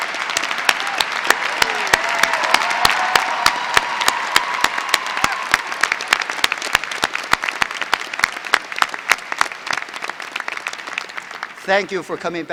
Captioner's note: applause; applause